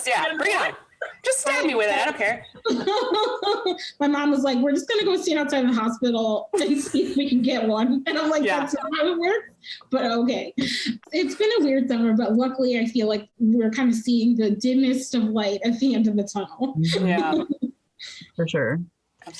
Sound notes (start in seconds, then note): 2.7 laughing